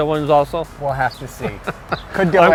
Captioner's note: chuckles